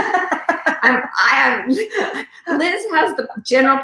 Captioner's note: laughing